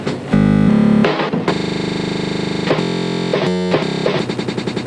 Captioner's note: buzzing noises; drum beats and buzzing noises